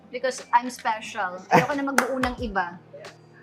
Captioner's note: chuckles